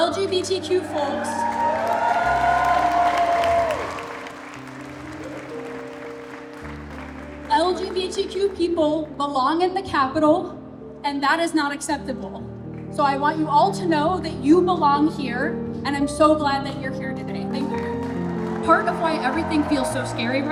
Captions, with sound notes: LGBTQ folks. [APPLAUSE] LGBTQ people belong in the capitol, and that is not acceptable. So I want you all to know that you belong here, and I'm so glad that you're here today. Thank you. Part of why everything feels so scary